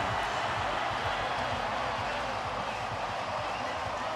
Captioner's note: crowd cheering